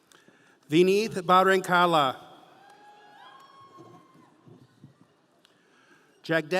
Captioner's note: audience cheering